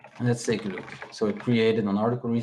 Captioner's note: keyboard clacking